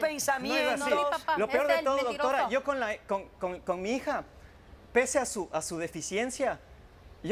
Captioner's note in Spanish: Hablan al unísono